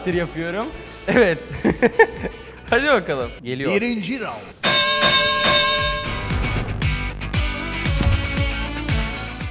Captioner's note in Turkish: gülme sesi̇